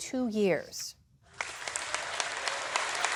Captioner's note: applause